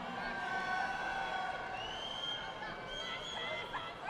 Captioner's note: audience applauding